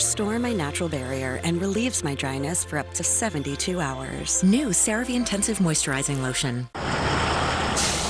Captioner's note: school bus stops